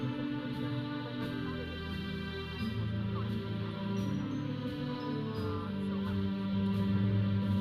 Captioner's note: audience chattering; processional music